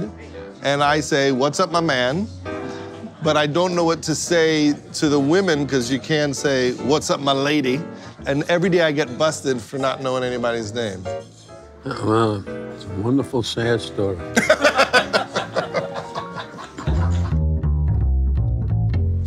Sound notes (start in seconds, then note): 14.3 laughing